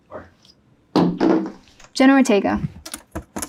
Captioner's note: card thumping